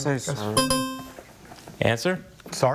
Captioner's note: buzzer chimes